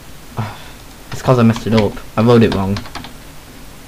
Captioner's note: sigh